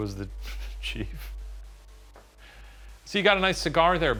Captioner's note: white noise